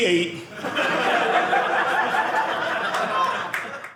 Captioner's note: audience laughing